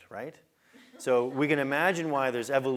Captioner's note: laugh